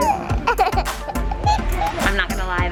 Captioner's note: laughing